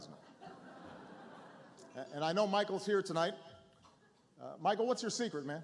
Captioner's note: laughter